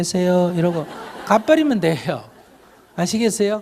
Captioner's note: audience laughter